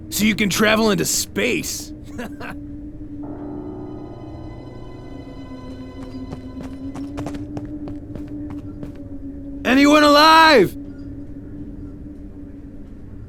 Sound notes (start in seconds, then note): 2.0 chuckles; 10.3 shouting